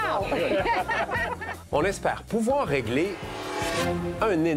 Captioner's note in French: rires